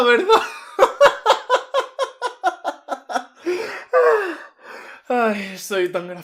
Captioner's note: risas de puta loca